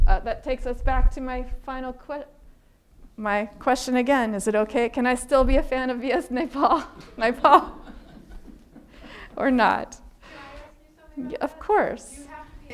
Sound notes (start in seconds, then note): 7.3 audience laughing; 7.4 laughing